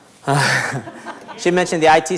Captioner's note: laughing